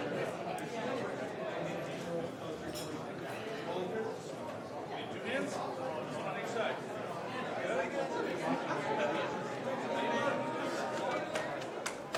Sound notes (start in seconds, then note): 5.6 mixed conversation in the room